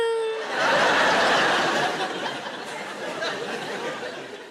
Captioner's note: audience laughing